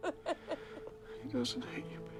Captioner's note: Bryn crying